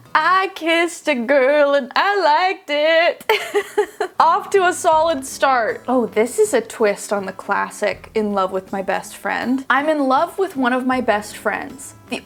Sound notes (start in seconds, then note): 3.2 laughing